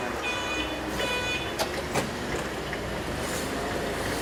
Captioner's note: engines hum